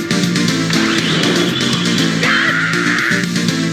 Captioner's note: vrrrmmmmmmmmm!!